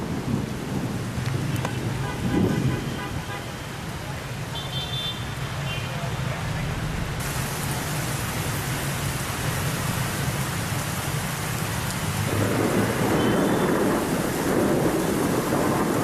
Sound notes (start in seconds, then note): 1.1 city sounds